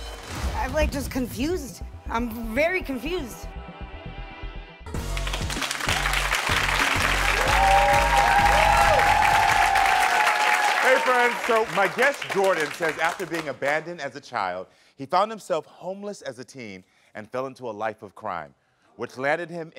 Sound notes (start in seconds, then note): 4.9 upbeat music; 5.0 crowd cheering